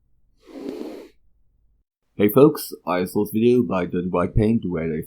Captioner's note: inhales